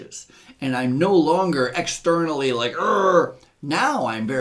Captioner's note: growls